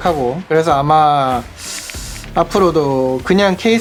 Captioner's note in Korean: 스읍